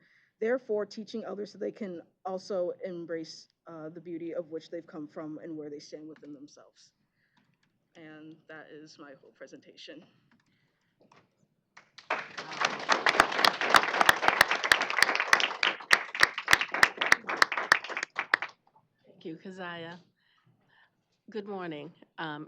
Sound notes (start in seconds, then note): 11.8 applause